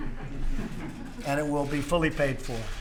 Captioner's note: laughter